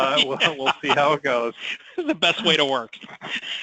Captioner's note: laughing